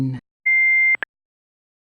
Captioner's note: beep